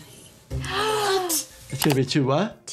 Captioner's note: gasps